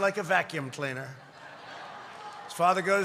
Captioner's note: laughter